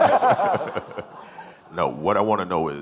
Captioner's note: audience laughing